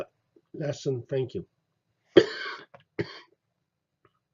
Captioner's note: cough